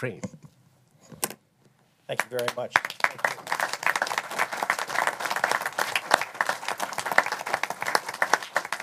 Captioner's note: applause